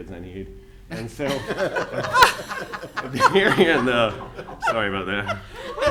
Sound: audience laughing

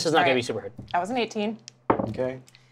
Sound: die clatters

